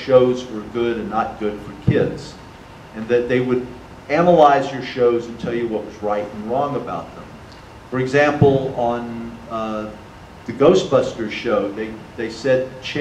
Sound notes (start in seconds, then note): none